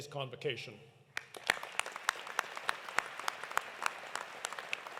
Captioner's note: audience applauding